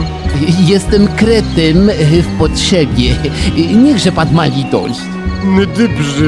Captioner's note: pidgin french accent